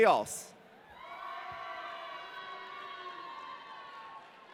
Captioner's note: audience cheering